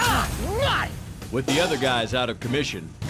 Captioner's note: gate rattles; shouts